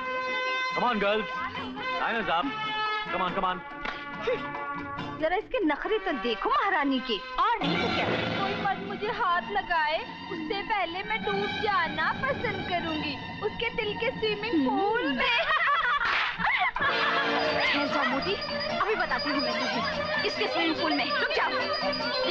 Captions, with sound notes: Come on girls, time is up. Come on. Look at the attitude of this queen. I would like to drown before a man touches me. In the swimming pool of his heart. (Laughs) Wait fatso, I will show you in whose swimming pool. Wait.